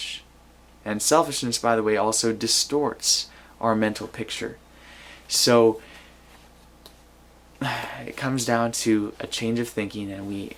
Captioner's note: sighs